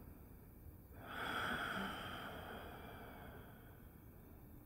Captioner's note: deeply breathing